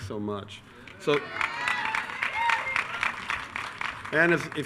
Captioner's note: attendees cheering